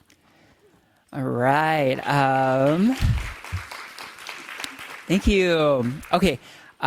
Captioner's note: audience applauding